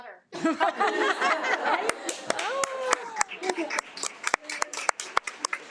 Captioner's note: attendees laugh and applaud